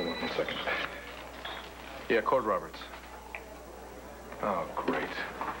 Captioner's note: telephone rings